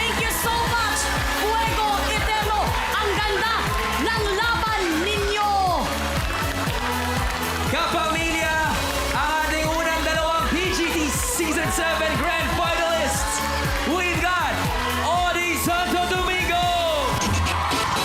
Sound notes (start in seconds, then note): 5.4 theme music playing; 6.7 applause